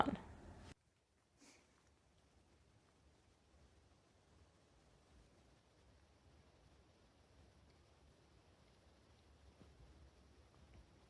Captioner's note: foresty silence